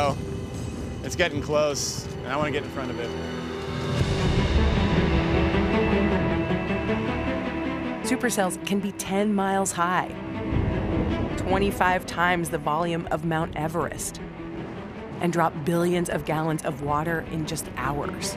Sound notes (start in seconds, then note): 3.2 thunder rumbling